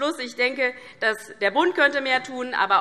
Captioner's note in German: none